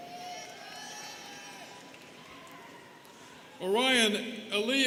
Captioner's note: students cheering